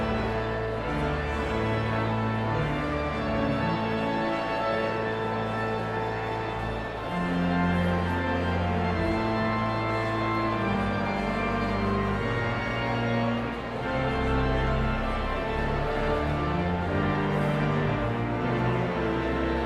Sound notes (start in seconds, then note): 0.2 energetic organ music continues; 4.4 audience chattering continues; 15.2 energetic organ music continues